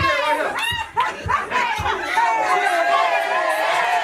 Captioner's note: audience laughing